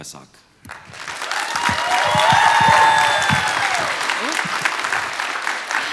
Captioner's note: applause